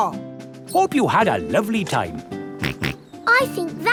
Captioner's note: snorts